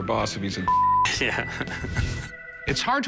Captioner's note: laughs